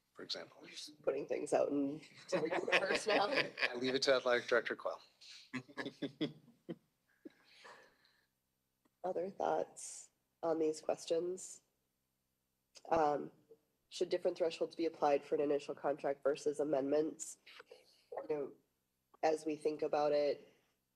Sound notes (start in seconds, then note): 5.6 laughter